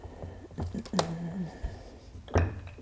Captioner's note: hum of finding